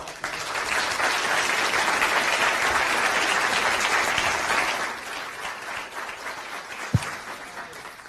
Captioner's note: applause